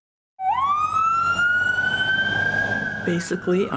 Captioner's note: siren wails